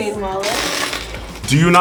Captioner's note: chain clattering